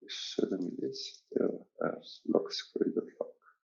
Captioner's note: murmurs